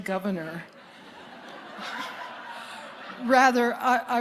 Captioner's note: audience laughing